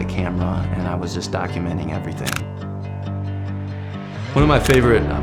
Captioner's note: camera click